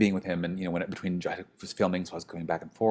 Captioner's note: speaks faintly